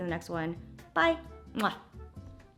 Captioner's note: smooches